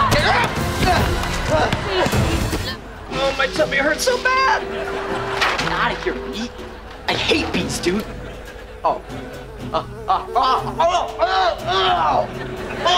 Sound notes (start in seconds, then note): 8.0 groaning